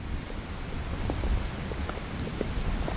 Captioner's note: rain